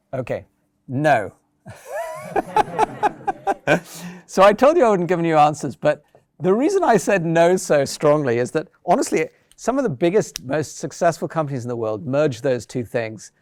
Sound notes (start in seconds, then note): 1.7 laughs